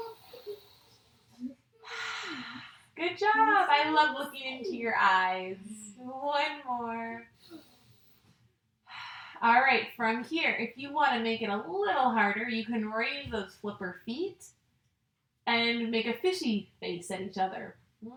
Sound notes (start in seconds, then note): 0.2 inhales and exhales; 7.4 inhales and exhales; 17.4 vocalizing